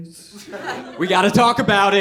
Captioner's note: audience laughing